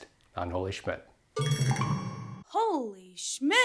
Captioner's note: loud ringing